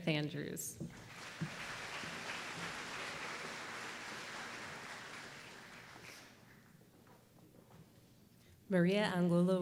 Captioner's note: applause